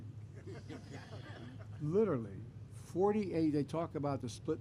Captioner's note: laughter